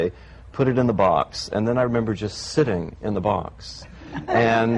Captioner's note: laughter